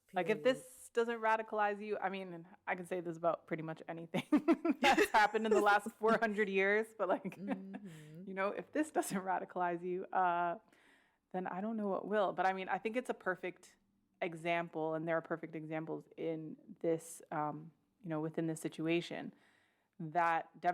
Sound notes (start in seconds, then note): 4.5 laughs